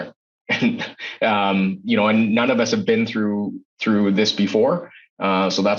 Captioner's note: chuckles